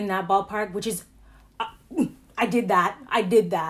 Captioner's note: grunts